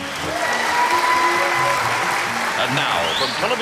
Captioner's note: audience applauding